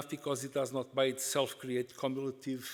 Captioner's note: none